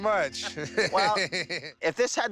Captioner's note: both laugh